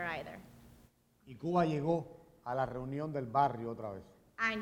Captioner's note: speaking in Spanish